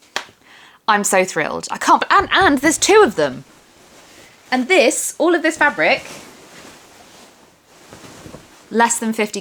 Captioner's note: rustling